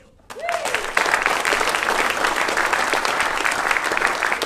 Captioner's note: audience applauding